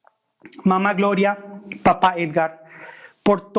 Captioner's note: non-english